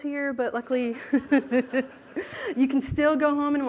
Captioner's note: laughter